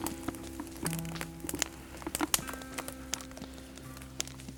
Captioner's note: fire crackling